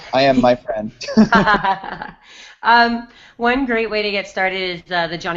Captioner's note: laughs